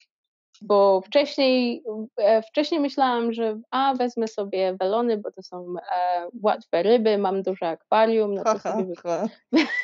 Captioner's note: ha-ha-ha